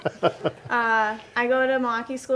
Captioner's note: laughing